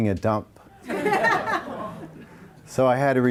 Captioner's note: audience laughs